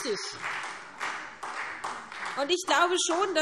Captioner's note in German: Beifall SPD und DIE LINKE